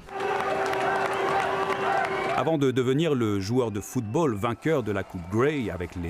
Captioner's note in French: cris et applaudissements